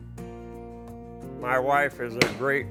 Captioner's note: hammer banging